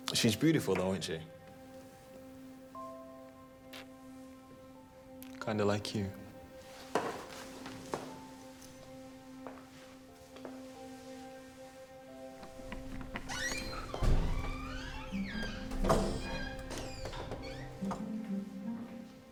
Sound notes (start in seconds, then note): 12.5 door squeaking